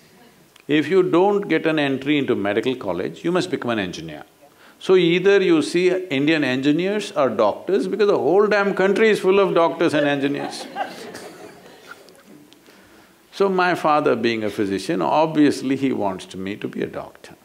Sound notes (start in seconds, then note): 9.9 laughter